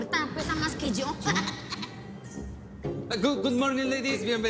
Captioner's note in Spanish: Risas